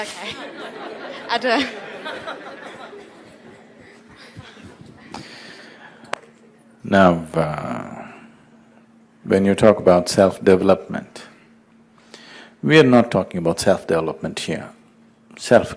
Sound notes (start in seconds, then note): 5.7 laughs